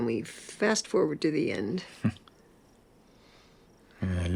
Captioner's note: Christopher chuckles